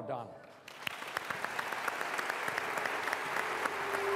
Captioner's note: applause